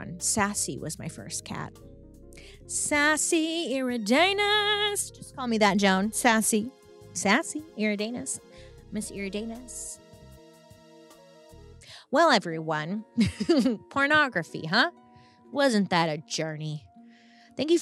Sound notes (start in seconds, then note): 10.3 sexy music; 13.2 chuckles